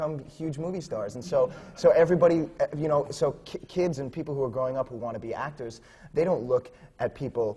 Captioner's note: laughter